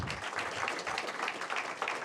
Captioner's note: applause